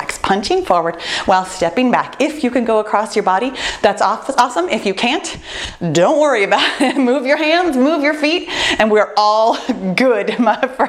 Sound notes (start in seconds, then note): 6.4 laughs